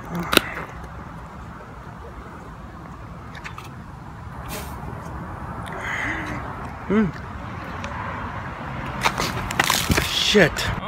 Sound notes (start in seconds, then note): 9.5 splat